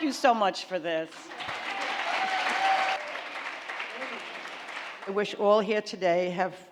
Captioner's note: applauding